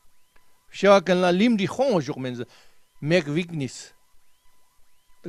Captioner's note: tibetan